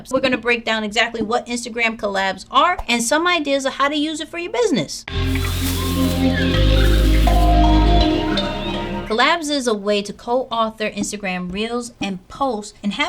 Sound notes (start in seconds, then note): 5.1 lively music; 5.3 jungle animals calling